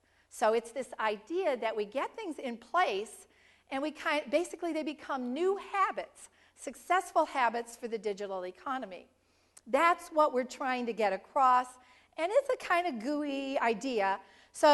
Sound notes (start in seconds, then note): none